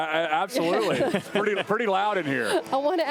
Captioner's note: laughter